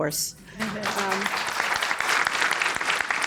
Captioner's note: applause